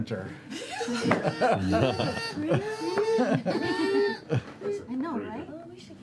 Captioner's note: printer noises